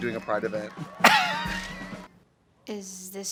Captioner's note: Katya laughs